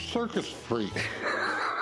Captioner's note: laughs